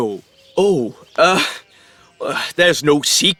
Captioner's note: chuckles